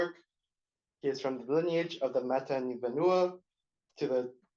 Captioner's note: non-english